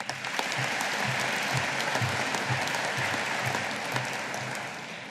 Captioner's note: audience applauding